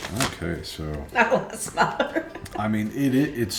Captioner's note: laughing